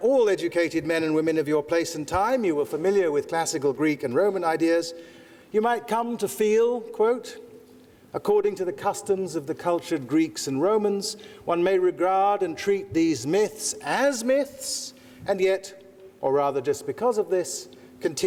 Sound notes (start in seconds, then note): none